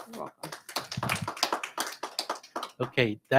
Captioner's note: audience applauding